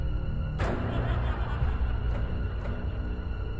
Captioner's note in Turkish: Gülme efekti